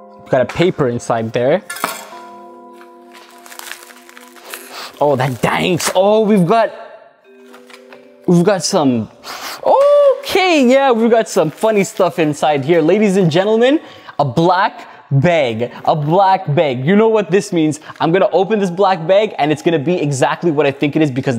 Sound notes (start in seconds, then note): 1.8 plastic clatters; 9.2 sniffs